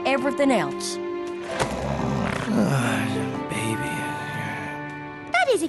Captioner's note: snoring and muttering